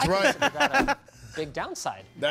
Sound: laughter

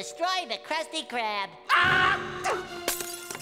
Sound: screaming

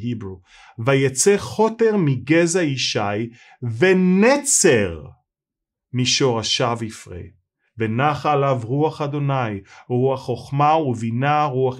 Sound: Hebrew Reading

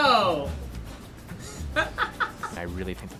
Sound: laughing

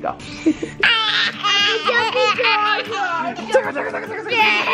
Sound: laughing

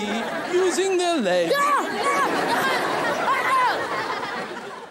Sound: shrieking

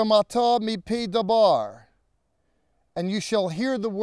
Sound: speaking in Hebrew

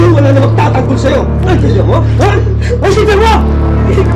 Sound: crying

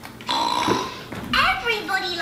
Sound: pig snorting

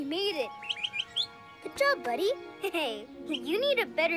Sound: chirps

